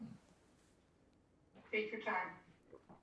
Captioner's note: drinking